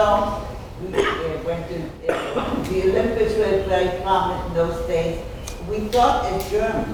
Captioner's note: speaking off mic and muffled